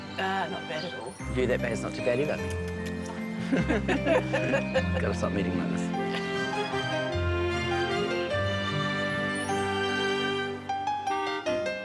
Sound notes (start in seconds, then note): 3.4 both laughing; 5.8 magical music